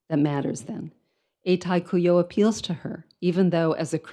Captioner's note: speaks in foreign language